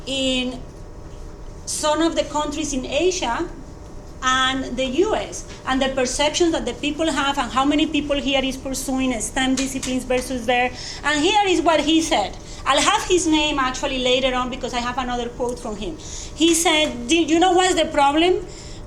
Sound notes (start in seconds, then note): none